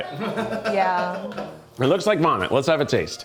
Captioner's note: crew member laughs